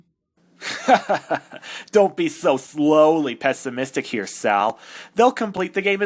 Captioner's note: laughing